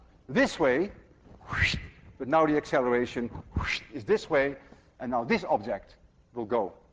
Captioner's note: makes whooshing sound